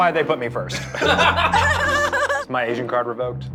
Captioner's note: laughter